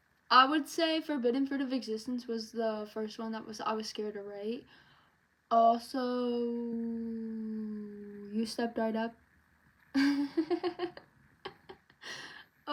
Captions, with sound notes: I would say 'forbidden fruit of existence' was the first one that I was scared to write also.. You Stepped Right Up (laughs out of fear)